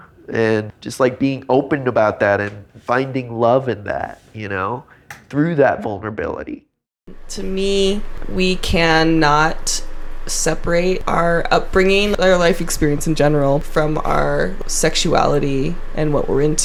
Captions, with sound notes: and just like being open about that and finding love in that, you know, through that vulnerability. (recorded voice) To me we can not separate our upbringing, our life experience in general from our sexuality and what we're into.